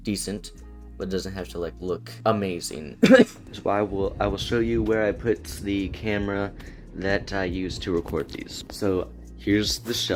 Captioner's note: cough